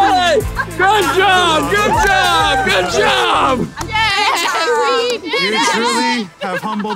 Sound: cheering

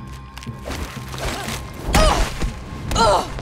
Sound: grunting

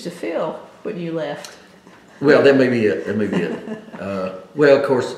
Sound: laughs

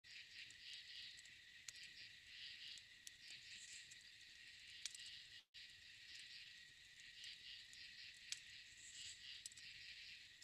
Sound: crickets & forest sounds

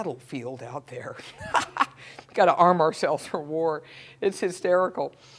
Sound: laugh

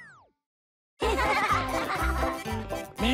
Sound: laughter

